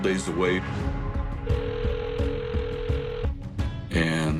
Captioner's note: phone dialing